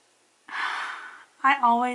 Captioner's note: sighs